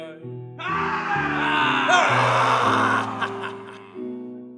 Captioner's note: pirates roar